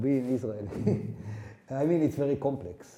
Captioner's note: laughing